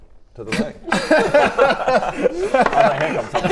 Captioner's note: underwhelmed laughter